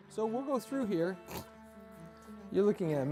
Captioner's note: snorts